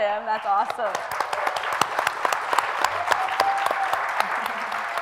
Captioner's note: audience applauds